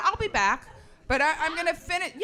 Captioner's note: woman shouts